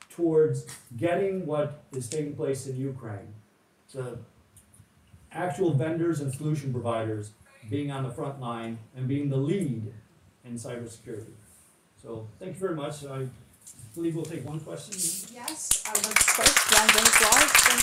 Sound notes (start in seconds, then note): 13.2 audience claps; 13.2 clapping drowns out